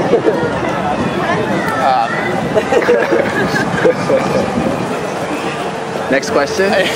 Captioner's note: laughing